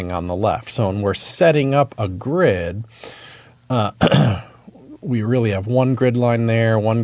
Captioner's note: cough